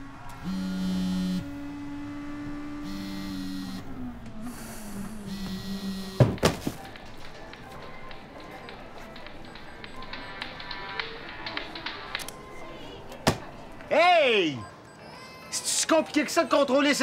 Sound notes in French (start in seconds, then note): 0.4 vibration; 4.4 soupir